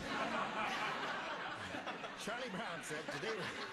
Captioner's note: laughter